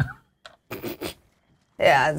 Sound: dice rolls; snorts

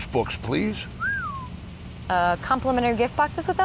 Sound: whistle

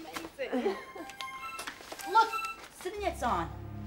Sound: computer chimes

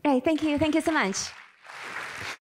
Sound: applause

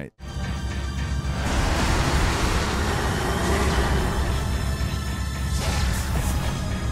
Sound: dramatic mysterious music; guns blasting

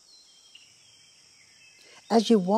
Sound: birds chirping

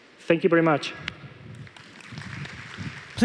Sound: applause

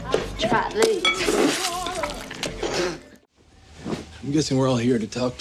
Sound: food squishing

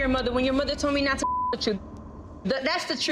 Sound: beep

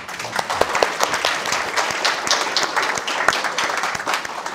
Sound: audience applauding

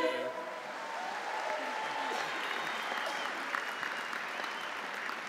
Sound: audience applauding

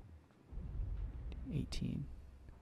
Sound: boom

